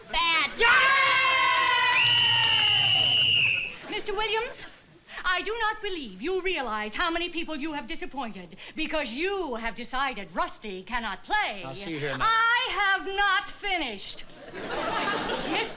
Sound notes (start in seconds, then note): 0.1 cheering; 1.9 whistle blows